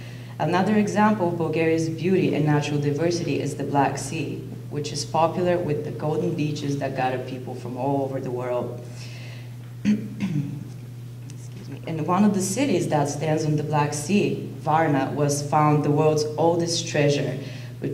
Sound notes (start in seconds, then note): 9.8 clears throat